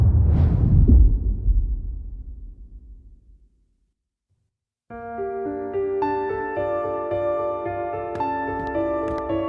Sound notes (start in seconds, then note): 2.0 dramatic sound; 7.8 slow piano music playing